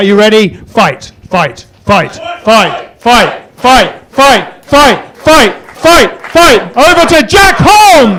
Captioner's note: chanting